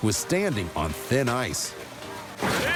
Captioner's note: crash